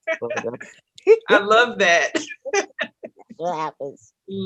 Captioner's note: laughs